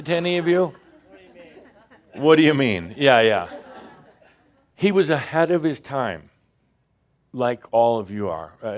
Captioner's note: more chuckles